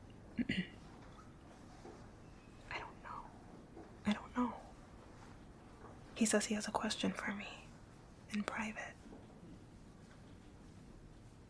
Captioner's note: whispering